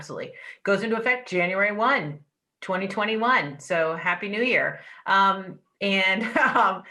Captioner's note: laughter